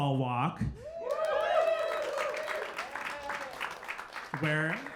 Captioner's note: audience cheering